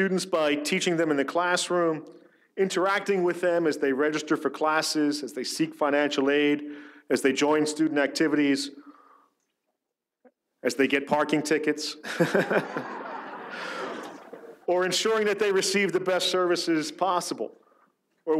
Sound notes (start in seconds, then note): 12.1 audience laughs; 12.1 laughs